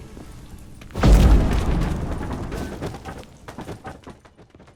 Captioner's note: thunderous boom, debris clatters